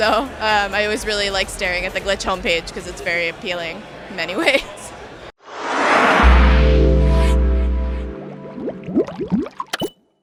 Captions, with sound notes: So I always really liked staring at the Glitch homepage because it's very appealing, in many ways. (laughs) (air whooshing)